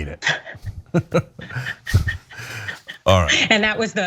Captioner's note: laugh